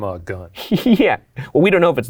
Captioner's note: laughs